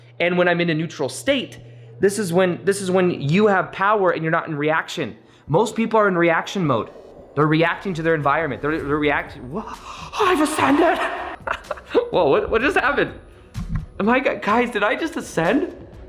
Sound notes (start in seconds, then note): 9.7 chuckles